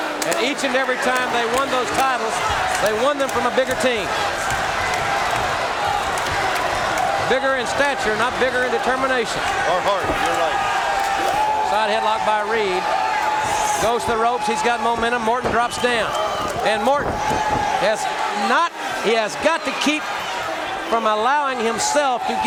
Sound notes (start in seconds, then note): 4.5 audience cheering